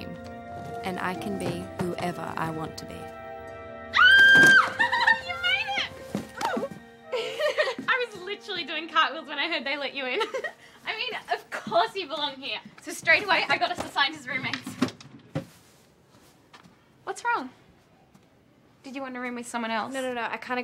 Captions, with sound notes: and I can be whoever I want to be. [squeals] You made it! [chuckles] I was literally doing cartwheels when I heard they let you in. [chuckles] I mean, of course you belong here. So straight away I got us assigned as roommates. What's wrong? -Wanna room with someone else? -No.